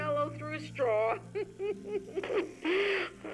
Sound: Rose Laughs

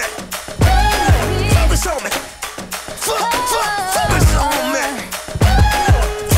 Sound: ooh

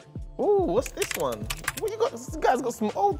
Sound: typing

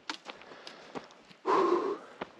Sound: exhales

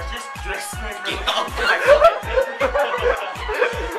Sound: laughter

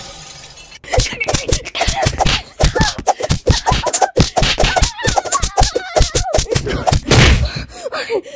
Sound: another mix of hits and shouts

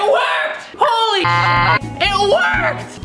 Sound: beep

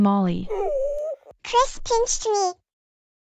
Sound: crying

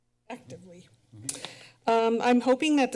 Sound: smacks lips

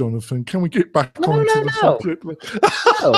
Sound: laughs

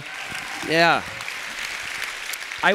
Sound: applause

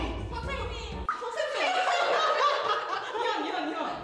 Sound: haha

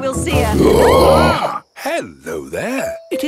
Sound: roaring, screaming

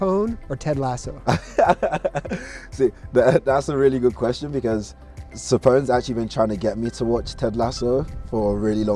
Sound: laughs

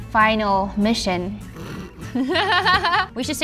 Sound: laughing

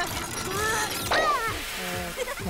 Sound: grunting; laughing

